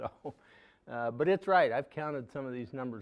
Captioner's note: laughing